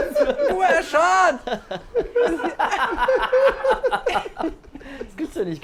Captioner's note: loud laughter